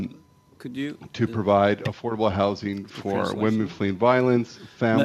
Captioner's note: speaking FRENCH